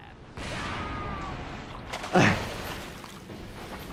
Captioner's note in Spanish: explosión en auge